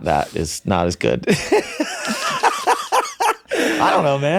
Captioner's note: men laughing